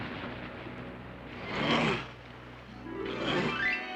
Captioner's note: men grunting in unison